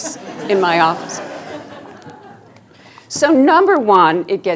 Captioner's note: students laughing